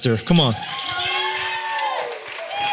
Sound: cheering; applause

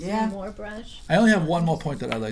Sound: voiceover

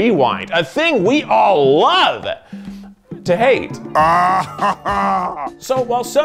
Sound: laughs

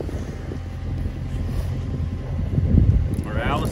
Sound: machinery humming

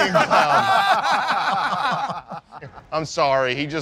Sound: laughing

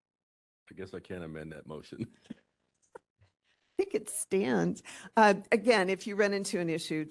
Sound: laughing

